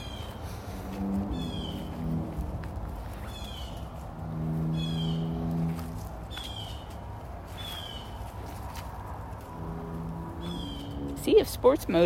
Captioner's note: birds squawking; birds